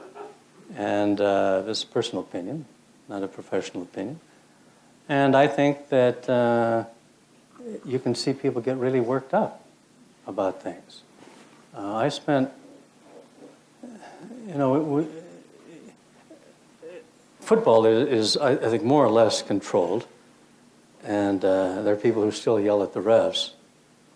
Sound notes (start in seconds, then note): 14.5 stutters